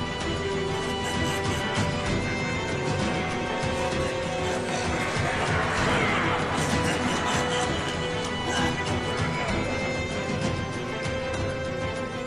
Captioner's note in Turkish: Kahkaha sesleri